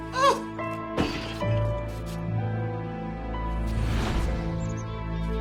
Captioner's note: sound of vase breaking